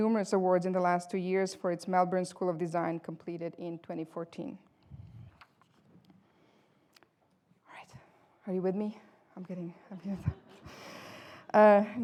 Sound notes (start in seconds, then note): 10.0 laughter